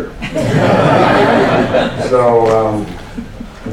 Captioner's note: laughter